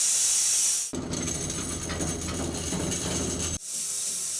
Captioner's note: saw rumbling; saw whirring